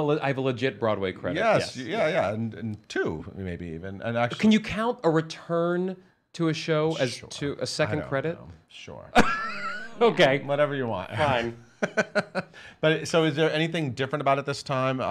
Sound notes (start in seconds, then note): 9.2 laughs